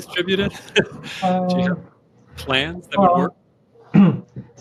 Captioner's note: chuckle